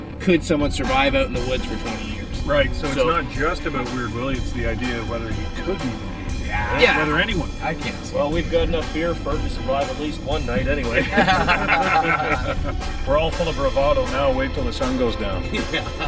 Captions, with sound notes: could someone survive out in the woods for 20 years. Right. So it's not just about weird Willie, it's the idea whether he could be living here. - Yeah. - Whether anyone well we've got enough beer to survive for at least one night anyway. - Yeah. [Laughing] We're all full of bravado now, wait till the sun goes down.